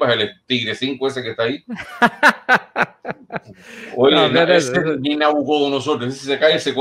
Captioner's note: laughs